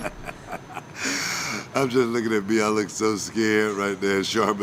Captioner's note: laugh